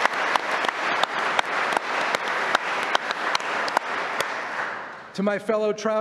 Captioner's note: applause